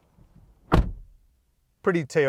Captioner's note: car door thuds